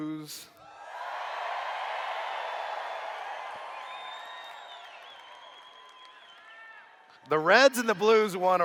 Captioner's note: cheers